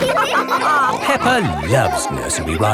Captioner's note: all laughing